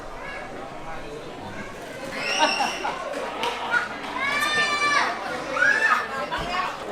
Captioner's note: crowd chattering and baby crying